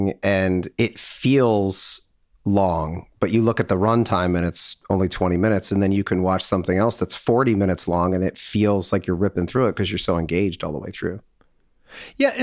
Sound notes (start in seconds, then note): none